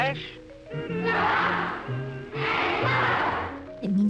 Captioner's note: children's voices